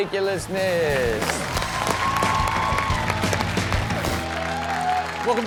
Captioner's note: audience cheers; upbeat rock music